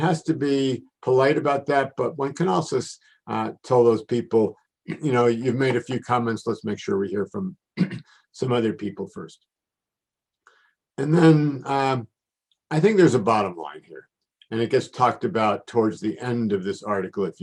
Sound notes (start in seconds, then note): 7.7 cough